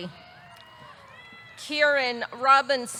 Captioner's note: audience cheering